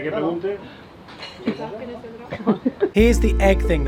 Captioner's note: giggles